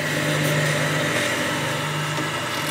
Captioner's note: machine noise